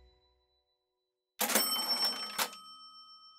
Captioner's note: cash register cha-ching